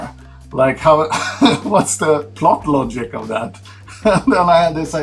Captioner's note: laughs